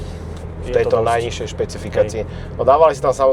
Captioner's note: sniffing